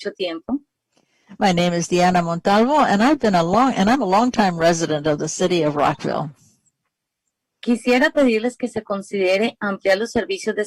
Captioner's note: speaking spanish